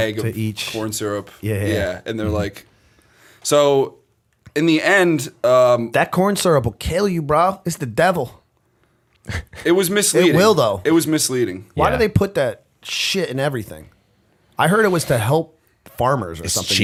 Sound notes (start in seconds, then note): 9.2 chuckle